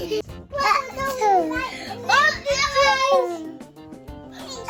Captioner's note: kids cheering